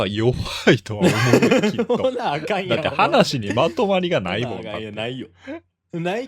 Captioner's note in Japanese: 笑い